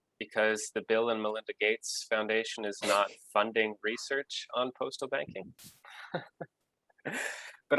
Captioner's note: laughs